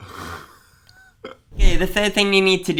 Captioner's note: both laugh